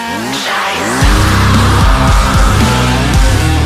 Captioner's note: chainsaaaaawwww